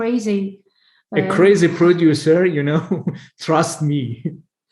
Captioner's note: chuckles